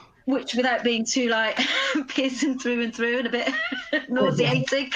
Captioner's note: laughs